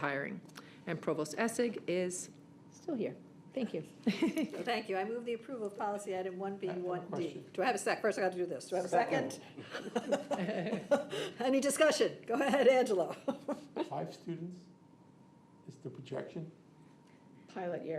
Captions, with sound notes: to support hiring. And Provost Essig is still here. Thank you. [ Chuckles ] >> Thank you. I move the approval of policy item 1B1D. >> I have a question. >> Do I have a sec-- First I got to do this. Do I have a second? [ Laughs ] Any discussion? Go ahead, Angelo. >> Five students is the projection?